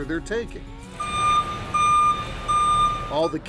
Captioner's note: electronic beeping